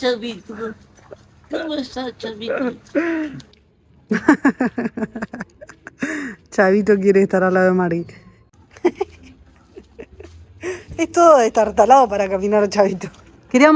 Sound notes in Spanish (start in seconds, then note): 5.3 Risas